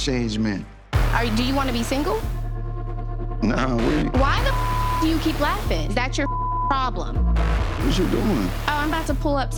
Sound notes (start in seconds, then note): 0.9 dramatic music; 4.3 beep